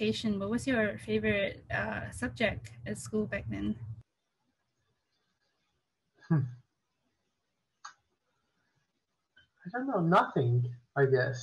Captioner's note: chuckles